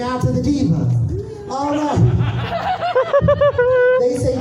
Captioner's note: more cackling